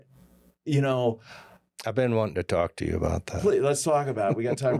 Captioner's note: laughter